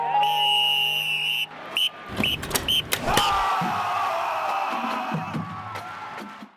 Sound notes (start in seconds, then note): 0.0 whistle blows; 3.5 crowd cheers